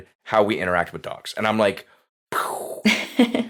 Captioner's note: mimics explosion sound